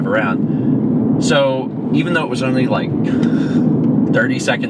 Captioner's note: wheezes